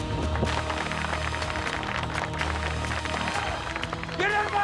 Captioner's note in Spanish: aplausos